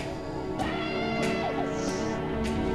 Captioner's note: screaming in distance